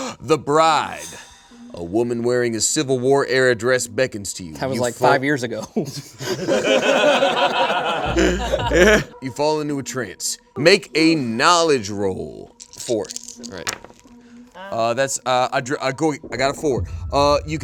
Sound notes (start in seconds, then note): 5.7 all laughing